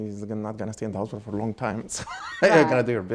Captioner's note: laughing